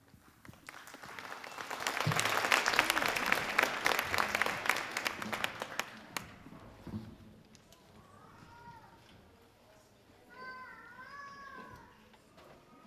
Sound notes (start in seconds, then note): 0.4 audience applauding; 7.9 babies crying